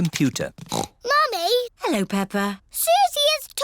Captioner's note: snorts